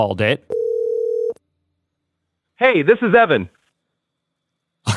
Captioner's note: phone rings